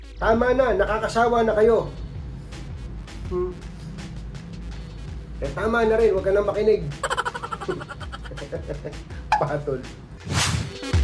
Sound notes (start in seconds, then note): 7.0 laugh